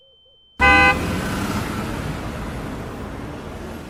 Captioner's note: car horn honking